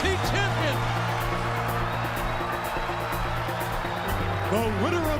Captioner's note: crowd cheering